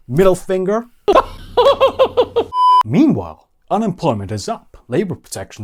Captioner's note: Tucker Carlson Laughter